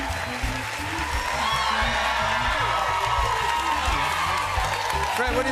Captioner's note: cheers and applause